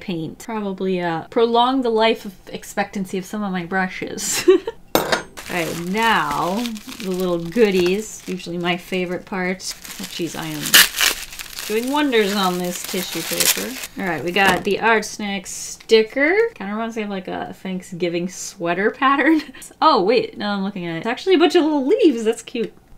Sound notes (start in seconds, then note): 4.0 laughs; 4.9 clank